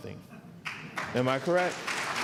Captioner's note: applause